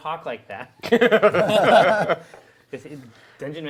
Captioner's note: laughing